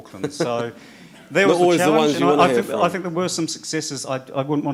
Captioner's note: laugh